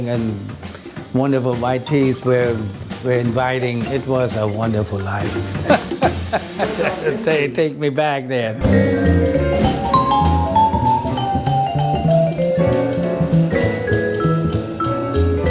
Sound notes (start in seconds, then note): 5.3 laughs